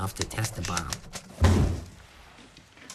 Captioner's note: explosion rumbling